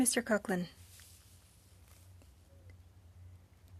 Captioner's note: speaking French